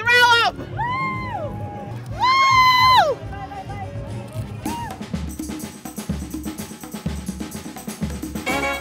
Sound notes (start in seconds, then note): 2.3 cheering; 3.9 instrumental music